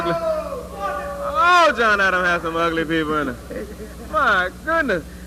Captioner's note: off camera protesting